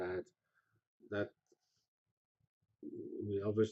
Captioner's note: pause